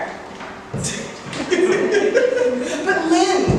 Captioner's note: laughs